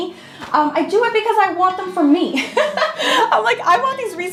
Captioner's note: laughing